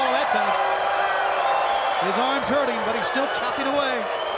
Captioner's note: crowd cheering